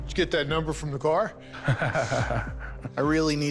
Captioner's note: Corey laughs